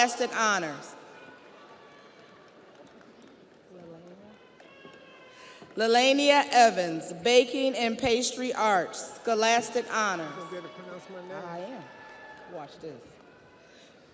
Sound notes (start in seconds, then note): 4.2 audience cheers; 4.9 audience applauds